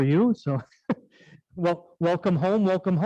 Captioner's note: laughing